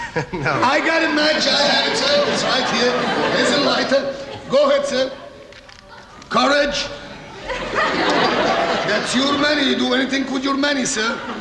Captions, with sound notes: - (laughs) No. - I got a match, I had to. It's right here. Here's a lighter. Go ahead, sir. Courage. (audience laughing) That's your money. You'll do anything for your money, sir.